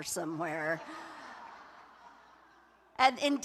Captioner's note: laughter